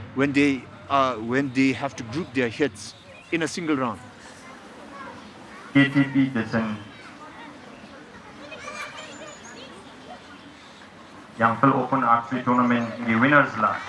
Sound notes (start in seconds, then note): 5.8 announcer speaking in a foreign language